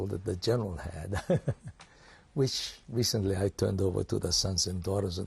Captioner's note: laughs